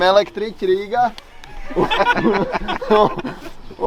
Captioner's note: laughing